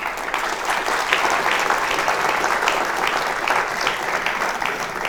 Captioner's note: applause